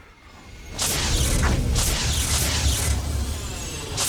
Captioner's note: flames whooshing